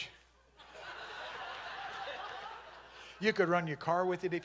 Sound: congregation laughing

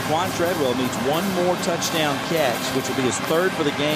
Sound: voiceover

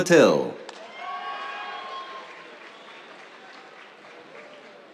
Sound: cheers, applause

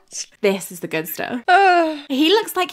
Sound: sigh

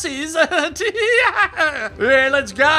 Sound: maniacal laughter

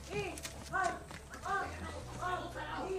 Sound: moans

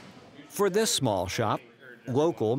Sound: voiceover

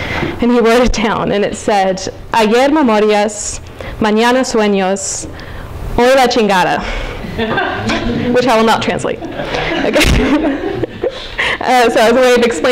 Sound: spanish speech

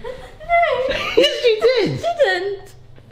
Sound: laughing

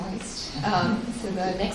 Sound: laughs

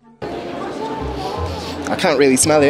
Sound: sniff sniff

